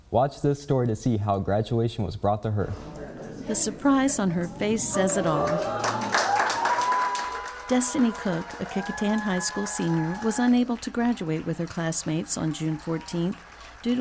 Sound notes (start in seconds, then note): 5.9 clapping and cheering